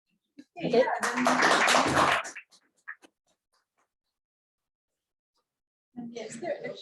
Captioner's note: students clapping